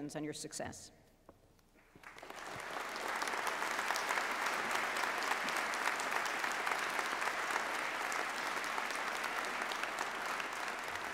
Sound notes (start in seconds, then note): 1.9 applause